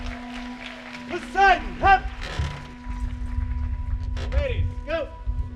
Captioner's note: audience claps and cheers; frame creaks